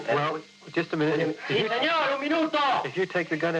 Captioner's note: man speaking in foreign language